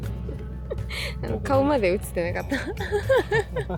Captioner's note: laughs